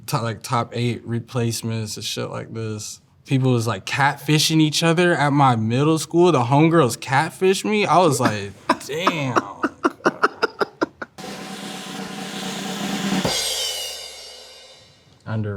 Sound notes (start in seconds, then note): 7.9 laughs; 11.1 drum rolls; 11.2 cymbals crash